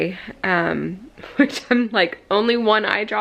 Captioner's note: laughing